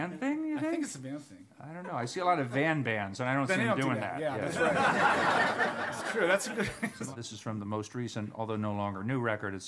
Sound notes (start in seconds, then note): 4.4 laughter